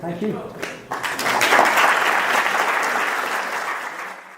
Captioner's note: applauding